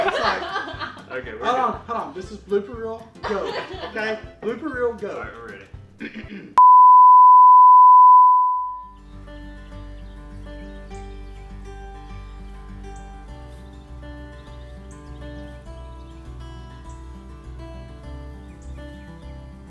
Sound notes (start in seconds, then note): 0.0 all laughing; 9.1 gentle guitar music; 10.7 birds singing